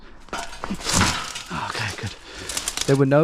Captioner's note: twigs cracking